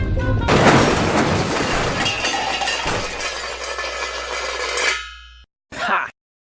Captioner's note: huge Crash